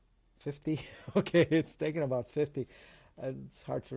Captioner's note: laughs